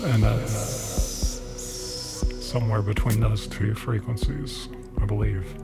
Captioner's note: sszzz sound